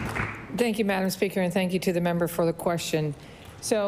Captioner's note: applause